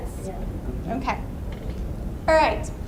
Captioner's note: voiceover